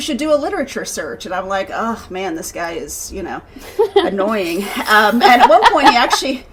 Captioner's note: groans; laughing